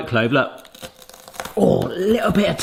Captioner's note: clove crunches